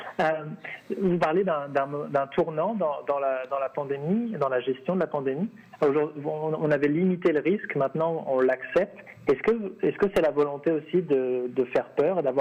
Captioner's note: speaking French